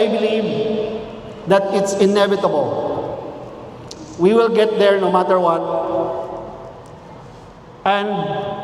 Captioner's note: clicks tongue